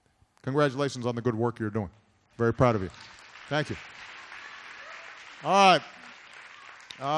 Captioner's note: applause